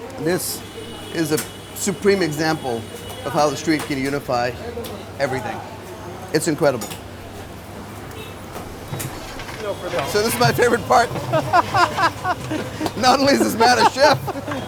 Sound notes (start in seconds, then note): 9.9 laughing